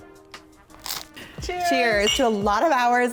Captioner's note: pizza crunches